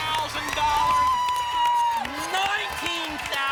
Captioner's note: applause and cheering